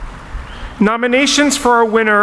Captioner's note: none